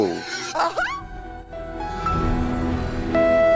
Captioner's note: gasping